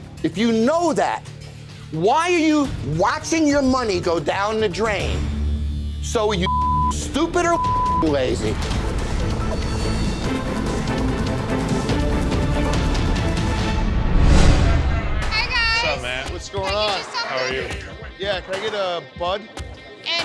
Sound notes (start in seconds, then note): 7.5 beep; 10.6 dramatic music